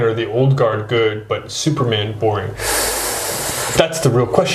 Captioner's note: Paul breathes in sharply